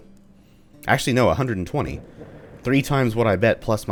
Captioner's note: thunder